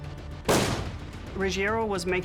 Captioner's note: gun shot